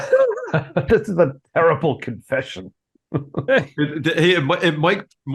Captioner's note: laugh